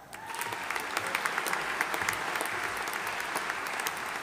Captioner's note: audience applauding